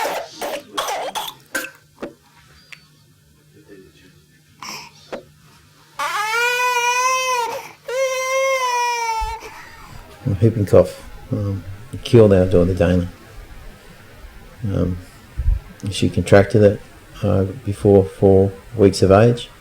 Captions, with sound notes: [Coughing] [Crying] Whooping cough killed our daughter Dana. She contracted it before four weeks of age